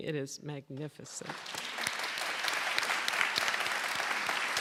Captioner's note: applause